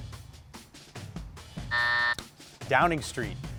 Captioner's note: timer buzzes